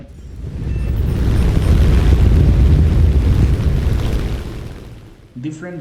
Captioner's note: aircraft Engines ,Gunfire, Flying Sounds